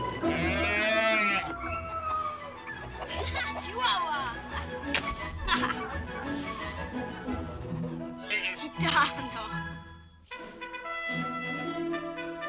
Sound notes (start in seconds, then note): 5.2 laughter